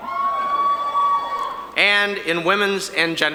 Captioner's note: audience cheering